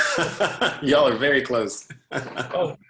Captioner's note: laughter